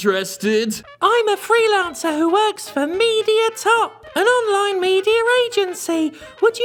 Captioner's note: high-pitch mimicking voice